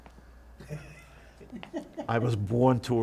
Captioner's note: laughing